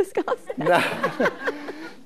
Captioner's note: laughing